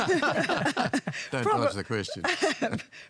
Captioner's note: laughter